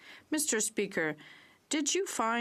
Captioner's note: speaking French